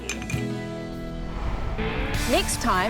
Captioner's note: glasses clink